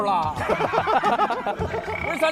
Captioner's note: hahahaha